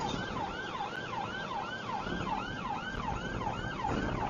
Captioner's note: police car siren